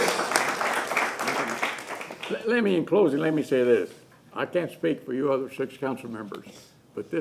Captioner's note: applause